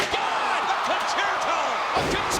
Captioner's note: audience cheering